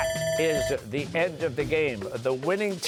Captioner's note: bell ringing